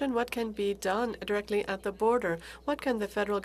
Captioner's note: speaking french